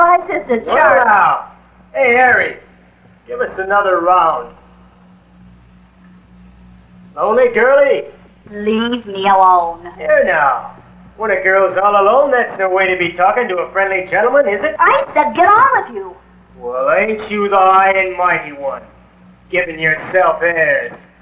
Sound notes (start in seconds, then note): 8.9 hesitantly; 15.1 a little more defiantly